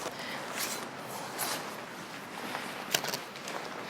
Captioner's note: tent rustling